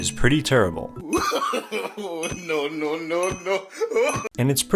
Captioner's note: laugh